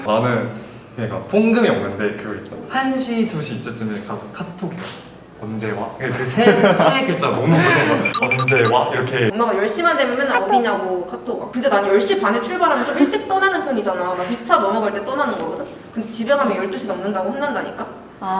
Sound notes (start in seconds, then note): 10.3 sudden outrage